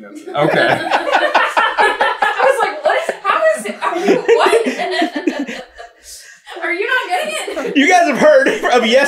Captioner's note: team laughter